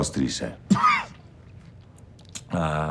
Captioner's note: Donnie coughs